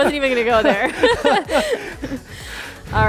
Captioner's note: both laughing